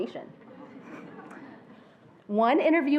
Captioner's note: attendees laughing